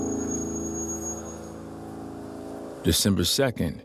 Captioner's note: brakes squeak; tense brooding music